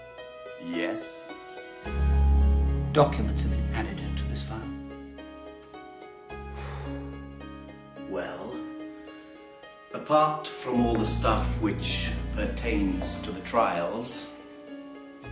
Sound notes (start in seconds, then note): 6.4 exhales